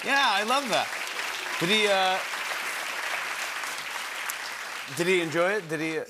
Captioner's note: cheering and applause